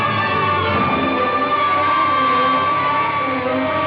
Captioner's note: sirens blaring